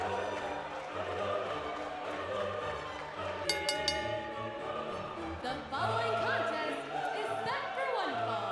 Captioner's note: bell ringing